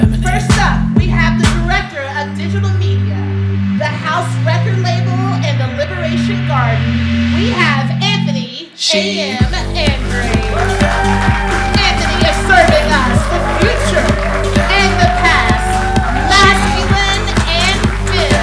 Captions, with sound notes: First up, we have the director of Digital Media, the Haus record label and the liberation guardian, we have Anthony AM. Andrade. (audience applauding) Anthony is serving us the future and the past masculine and fem, gold, luxury.